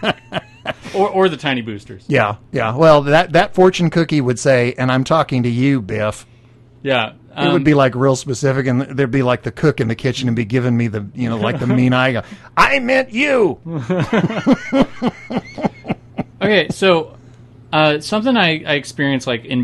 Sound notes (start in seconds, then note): 12.7 says in funny voice; 13.6 both laugh